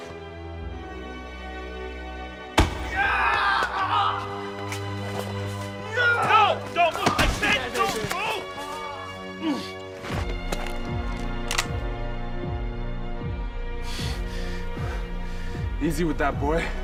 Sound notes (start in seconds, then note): 11.2 pistol cocking